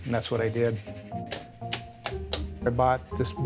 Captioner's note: switches being flipped